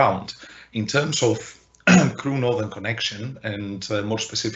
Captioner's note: clears throat